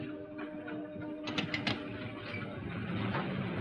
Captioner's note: phone clicks into receiver